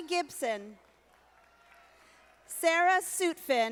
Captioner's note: audience applauding